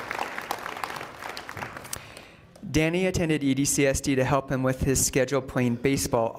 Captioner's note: applause